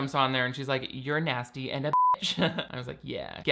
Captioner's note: beep; laughing